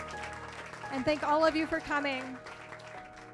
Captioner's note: applause